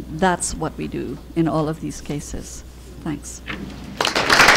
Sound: applause

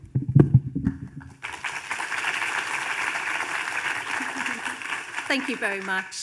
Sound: audience applauding

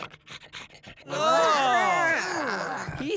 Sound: groaning

